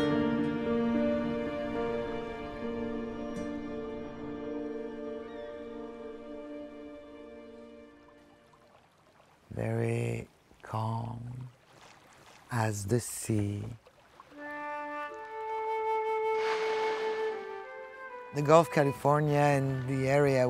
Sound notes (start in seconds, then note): 0.0 dramatic music; 14.0 whale blow; 14.2 soft music